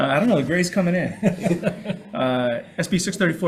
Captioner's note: laughs